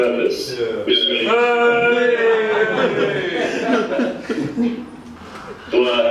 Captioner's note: yelling and laughing